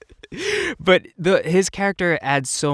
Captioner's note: laughter